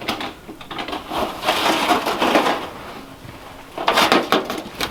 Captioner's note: metal can rattling